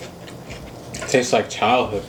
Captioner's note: chews